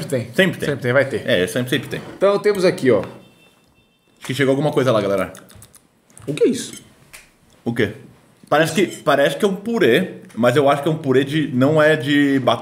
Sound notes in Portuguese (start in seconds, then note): 3.0 som de campainha